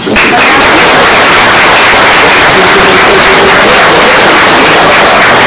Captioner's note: oklaski